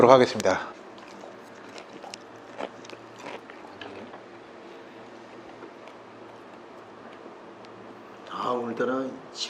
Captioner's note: chewing